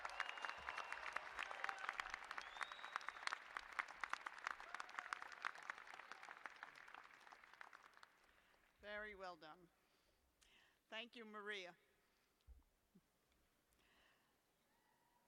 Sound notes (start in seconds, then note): 0.0 cheers and applause